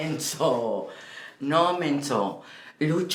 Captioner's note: Spanish